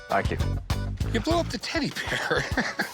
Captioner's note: chuckles